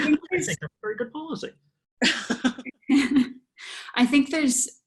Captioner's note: laughter